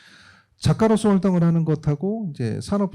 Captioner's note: speaking korean